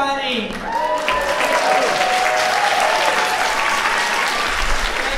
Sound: audience clapping; audience cheering

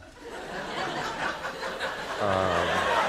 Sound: laughter

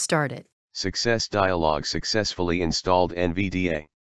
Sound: voiceover

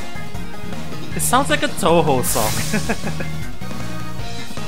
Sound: laughs

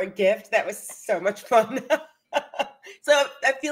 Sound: laughs

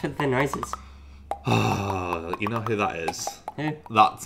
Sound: sighs

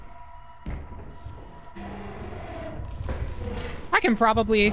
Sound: footsteps, Thumper roars

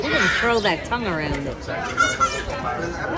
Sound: laughs

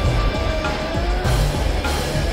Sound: Brogan growling

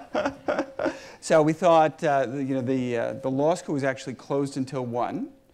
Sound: laughs

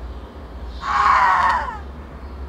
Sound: screams

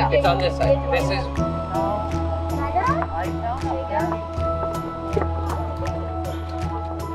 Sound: chatter, clacking of logs on rocks

